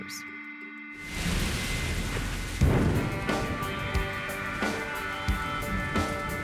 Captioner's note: sound of thunderstorm